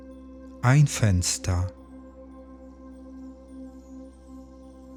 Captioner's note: german